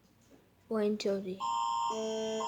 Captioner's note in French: tons d'alerte